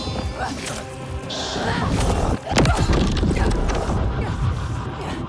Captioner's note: grunting